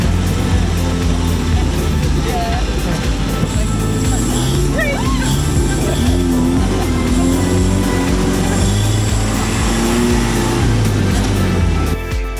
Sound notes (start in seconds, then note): 2.1 engine revving; 10.7 upbeat music